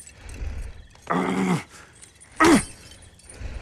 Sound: frustrated grunting

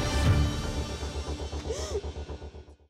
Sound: sobs

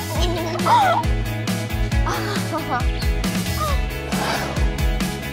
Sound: girls giggling; girls gasp; upbeat music

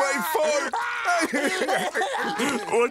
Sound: crying

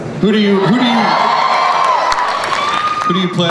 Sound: crowd cheers

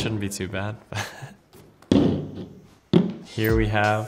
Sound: Christian laughs

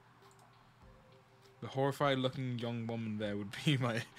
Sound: laughs

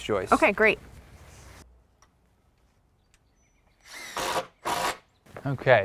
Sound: drill whirring, no additional audio

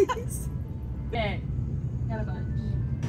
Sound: laughing

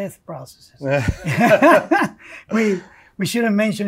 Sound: both chuckle

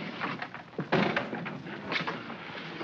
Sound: door slides open; door bangs shut

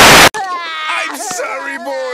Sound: crying sounds

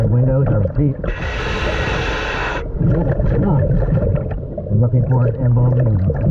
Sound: water bubbling; mouthpiece hissing

